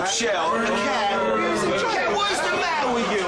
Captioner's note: jeering